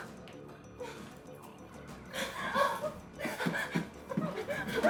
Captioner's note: Michelle whimpering